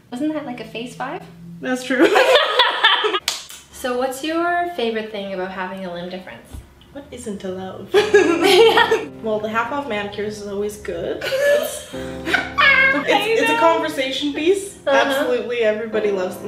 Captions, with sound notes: - Wasn't that, like, a face five? - That's true. (laughing) - So what's your favorite thing about having a limb difference? - What isn't to love? (laughter) Well the half off manicures are always good, it's a conversation piece, absolutely everybody loves,